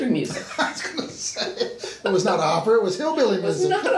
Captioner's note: laughing